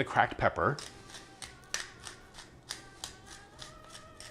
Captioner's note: light grinding